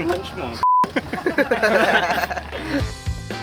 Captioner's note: laughs